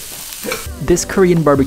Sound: laughing

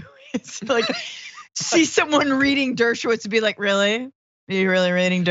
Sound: laugh

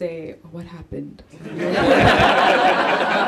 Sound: laughter

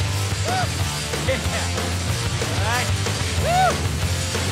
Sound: laughing

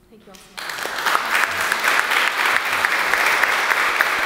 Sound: applause

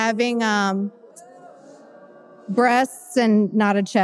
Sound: audience booing

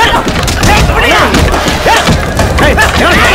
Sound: general commotion

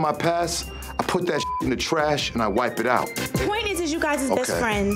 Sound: beep

